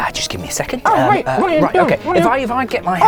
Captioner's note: protests